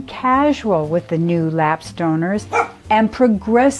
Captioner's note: dog barking